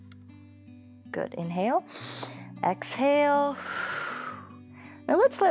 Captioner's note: exhales; inhales